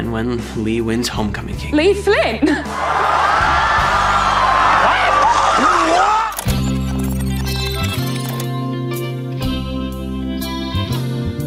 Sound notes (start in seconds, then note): 2.6 crowd cheers; 6.7 relaxing music